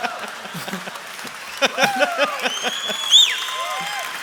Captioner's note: applause; laughter